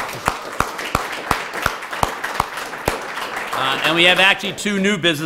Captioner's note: applause